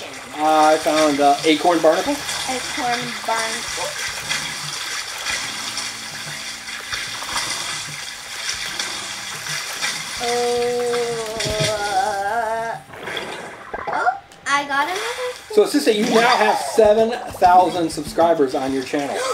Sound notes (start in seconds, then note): 4.4 water splashing; 10.3 submerging into water